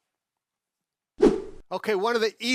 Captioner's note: fast swooshing